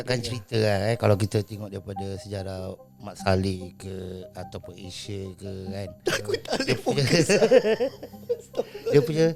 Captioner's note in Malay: ketawa